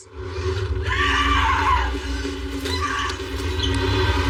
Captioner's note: Jenninifer screams